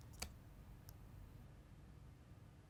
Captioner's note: keyboard typing